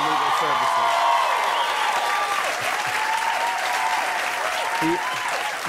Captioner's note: cheers and applause